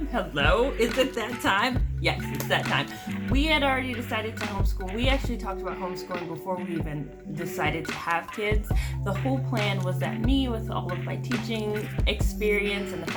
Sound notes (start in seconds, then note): none